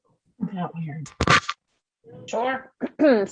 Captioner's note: scratching